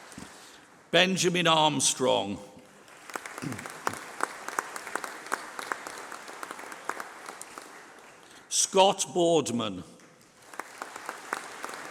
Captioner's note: applause